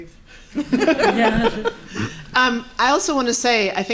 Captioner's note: laughing